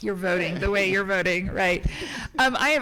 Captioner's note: people chuckling